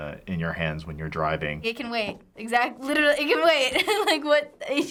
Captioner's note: laughing